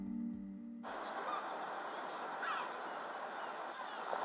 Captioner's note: seagulls squawking